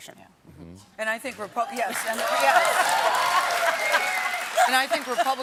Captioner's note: applause; cheers